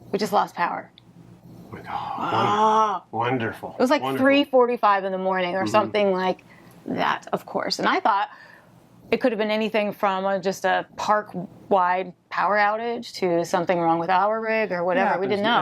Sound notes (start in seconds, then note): 1.7 gasping and groaning